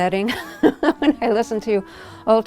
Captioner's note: laughter